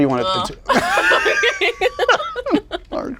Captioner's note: laughs